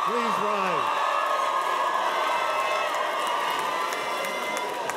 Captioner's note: cheers and applause